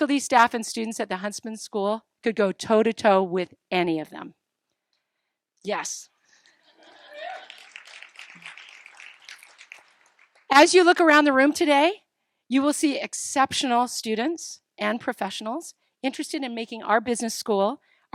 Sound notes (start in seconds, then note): 6.6 laughter; 6.8 applause